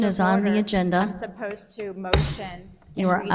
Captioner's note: gavel strikes